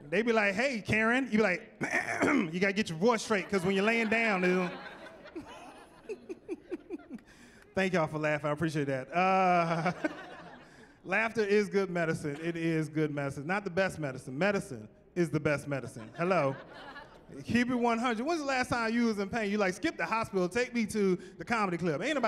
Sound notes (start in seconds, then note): 1.8 throat clearing; 4.7 laughing; 9.1 chuckling; 15.9 chuckling